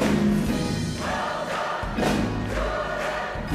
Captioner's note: applause